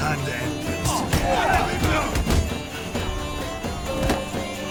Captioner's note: punches land, vagrants groaning